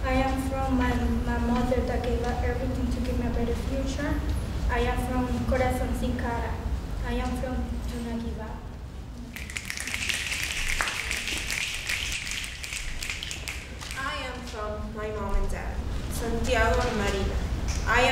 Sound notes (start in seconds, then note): 5.5 speaking foreign language; 9.6 snapping